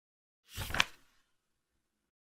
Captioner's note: page flip sound